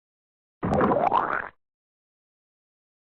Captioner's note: slo-mo splat